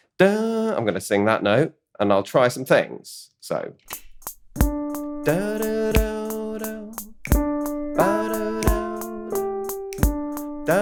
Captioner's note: hums along with musical track